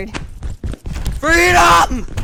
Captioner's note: exit door swings open